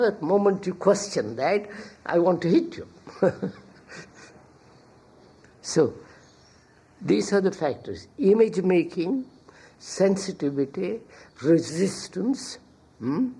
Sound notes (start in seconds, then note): 3.0 laughs